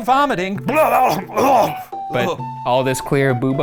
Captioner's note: retches